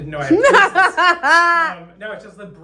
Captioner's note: laughs